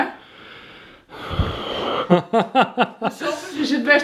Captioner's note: sighs